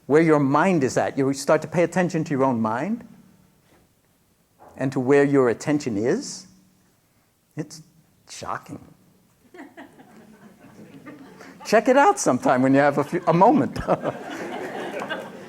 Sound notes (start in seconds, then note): 9.4 laughter